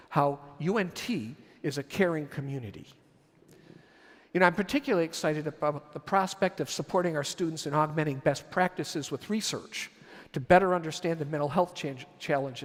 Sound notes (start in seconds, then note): none